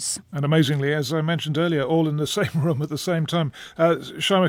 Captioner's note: chuckles